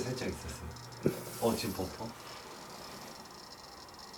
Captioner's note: burping